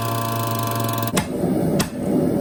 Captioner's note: hammering